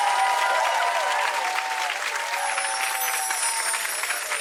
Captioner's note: soft chimes